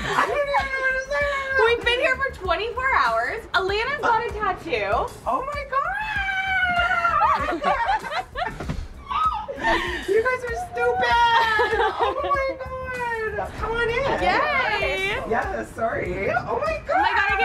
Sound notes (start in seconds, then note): 6.0 screaming; 7.1 everyone laughing; 8.4 thudding; 11.2 laughing